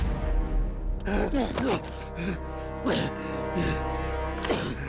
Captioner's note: grunting, panting